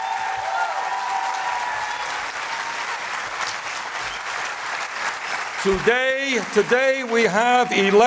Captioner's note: loud applause